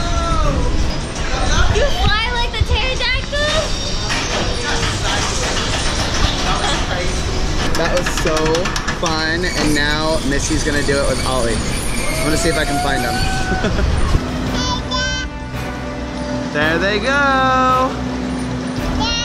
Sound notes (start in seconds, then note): 13.3 laughs